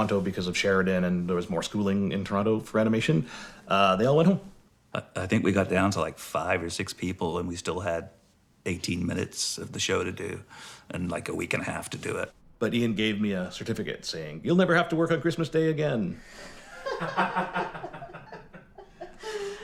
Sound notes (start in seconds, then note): 16.4 laughing